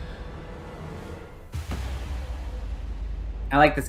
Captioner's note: small boom and electrical discharge sound